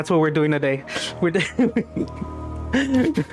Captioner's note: laughing